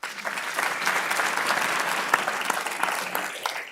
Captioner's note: audience clapping